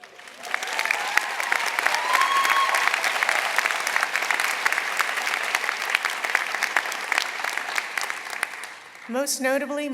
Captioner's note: applause